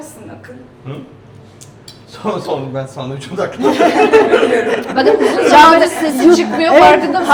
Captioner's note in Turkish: kahkaha